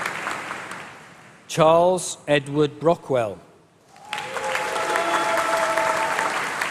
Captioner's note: applause